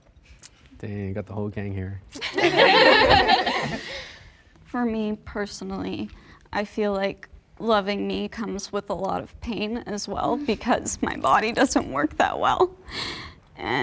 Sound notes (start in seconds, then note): 2.2 everyone laughing